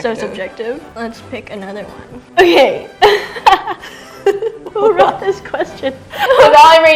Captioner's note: laughs